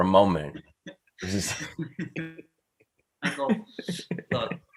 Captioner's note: group laughing